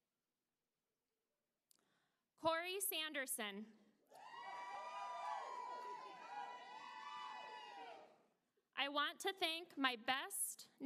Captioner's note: applause